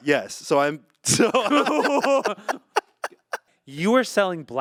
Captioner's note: group laughing